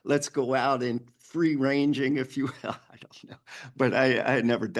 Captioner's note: chuckles